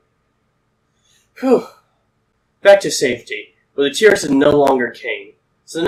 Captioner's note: whew